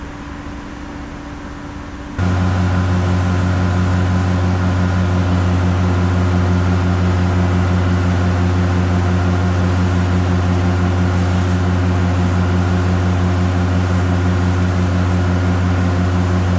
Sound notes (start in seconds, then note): 2.2 engine sound